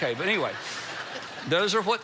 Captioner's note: congregation laughs